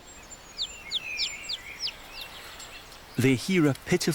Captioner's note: chirping